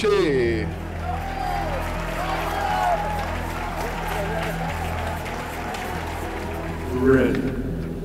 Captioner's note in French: applaudissements